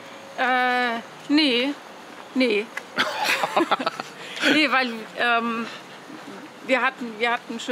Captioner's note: laughs